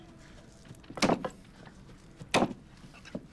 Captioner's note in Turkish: Satır sesi